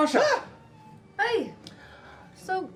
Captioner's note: shrieks